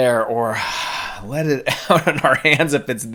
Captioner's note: breathes deeply; laughing